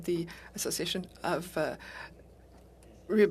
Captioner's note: speaking French